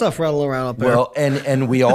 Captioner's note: chuckles